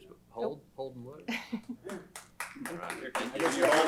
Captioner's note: applause